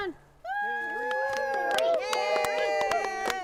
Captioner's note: cheering